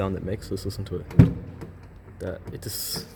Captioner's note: clunk!